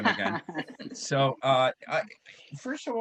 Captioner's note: chuckles